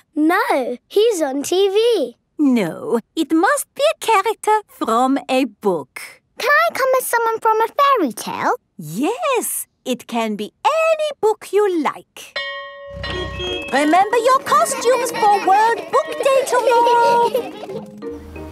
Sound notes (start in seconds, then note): 12.3 school bell ringing; 17.2 kids giggling